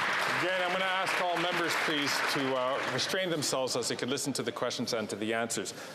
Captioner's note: some Applause